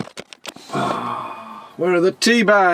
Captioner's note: weary sigh